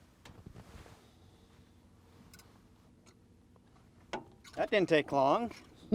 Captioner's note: clattering